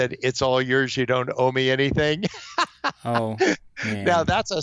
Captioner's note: laughs